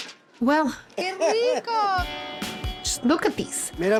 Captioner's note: laughs